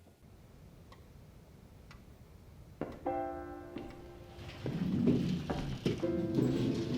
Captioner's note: clock ticking